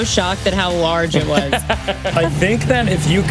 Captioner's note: laughs